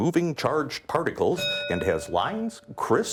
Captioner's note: bell ringing